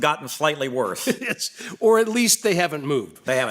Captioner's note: laughs